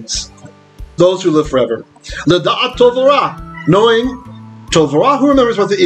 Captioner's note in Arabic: بالعبرية